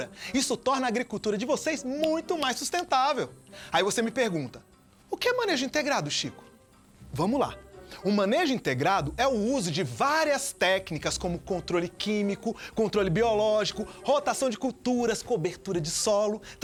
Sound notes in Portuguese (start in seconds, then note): none